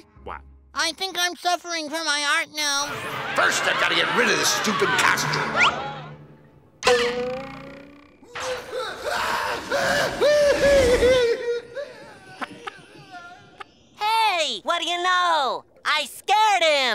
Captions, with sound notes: I think I'm suffering from my heart now. First, I've got to get rid of this stupid costume! [screaming] Hey, what do you know? I scared him!